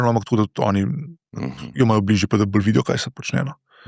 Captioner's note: coughing